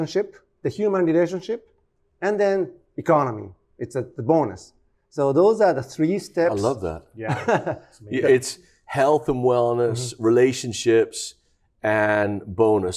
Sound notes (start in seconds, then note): 7.2 chuckles lightly